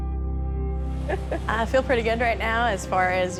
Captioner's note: laughing